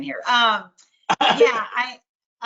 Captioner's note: laughter